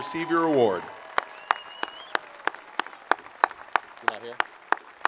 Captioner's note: attendees applauding